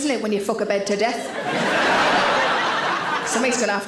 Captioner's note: audience laughs